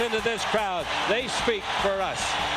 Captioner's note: crowd roars